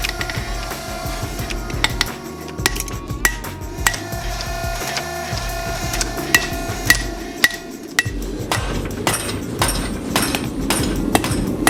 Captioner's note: forging sounds